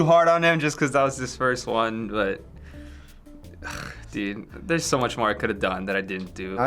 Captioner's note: sighs